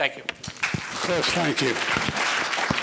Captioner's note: applause